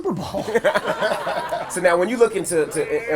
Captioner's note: laughing